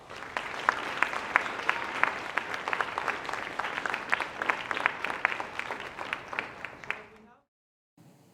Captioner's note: applause